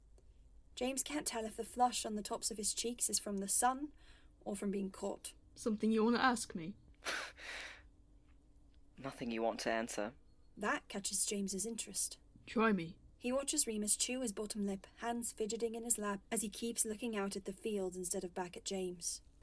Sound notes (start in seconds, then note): 7.0 Remus lets out a dry laugh